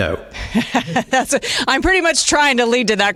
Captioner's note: laughter